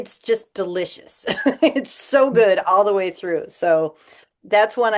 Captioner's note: laughter